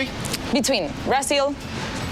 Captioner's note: speaking Spanish